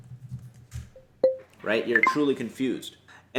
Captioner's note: notification dings